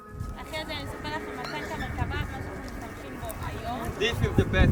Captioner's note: speaking foreign language